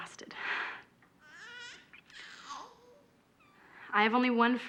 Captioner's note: baby crying